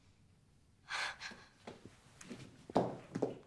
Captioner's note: exhales sharply